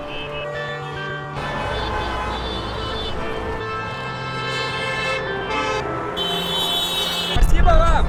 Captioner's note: loud honking